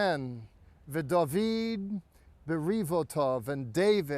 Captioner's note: speaking in Hebrew